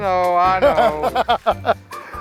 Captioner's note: laughs